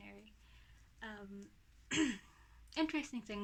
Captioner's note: clears throat